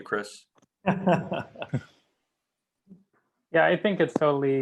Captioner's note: laughing